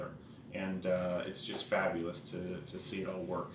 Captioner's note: none